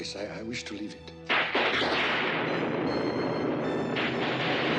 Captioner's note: thunder crashes